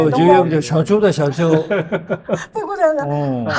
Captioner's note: laughs